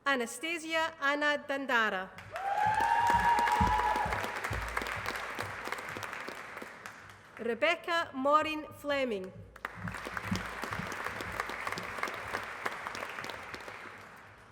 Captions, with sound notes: Anastasia Anna Dandara. [APPLAUSE] Rebecca Maureen Fleming. [APPLAUSE]